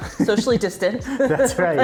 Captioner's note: laughing